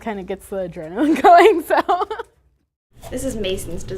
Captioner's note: laughter